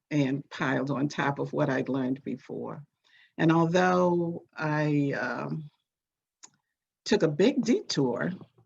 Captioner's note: none